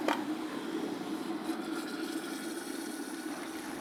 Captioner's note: the water continues to boil vigorously